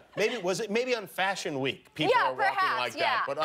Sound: laughter

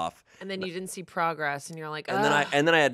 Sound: groans

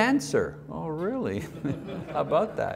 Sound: audience laughs

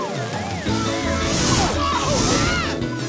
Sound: screaming

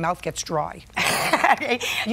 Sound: laughs

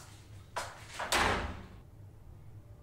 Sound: door slams shut

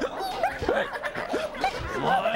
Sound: both hiccuping

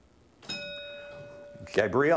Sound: ding

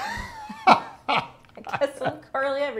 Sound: laughing

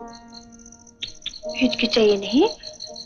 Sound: clicks tongue

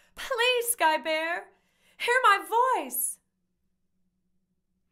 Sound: none

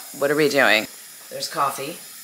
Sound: air hissing

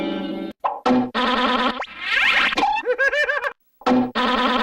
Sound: cartoon sounds continuing

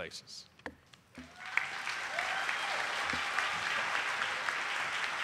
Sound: audience applauding

